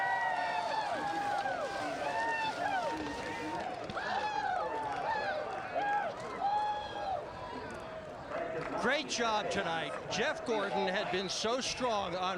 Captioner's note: cheers and applause